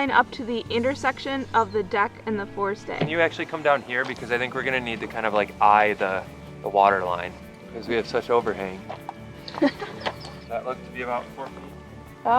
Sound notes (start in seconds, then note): 9.4 laughs